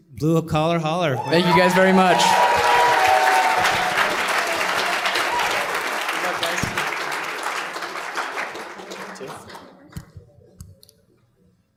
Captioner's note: applause